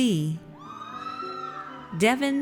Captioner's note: audience cheers